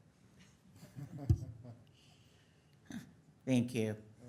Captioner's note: audience laughs